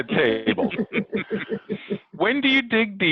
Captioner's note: participants laughs loudly